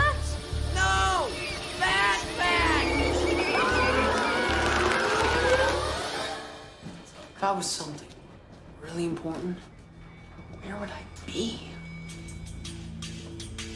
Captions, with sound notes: No, bat bats! [ Squeaking ] [ Both Screaming ] If I were something really important, where would I be?